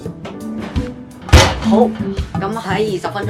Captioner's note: oven door slams